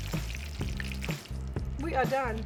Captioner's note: oil sizzling